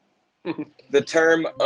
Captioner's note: chuckles